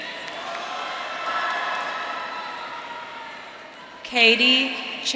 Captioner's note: audience cheering